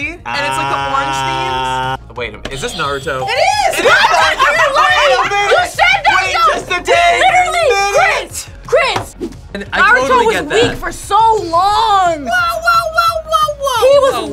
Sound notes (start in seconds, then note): 3.1 bell rings